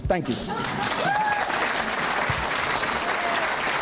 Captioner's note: applause